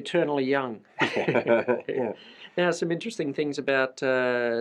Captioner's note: laughs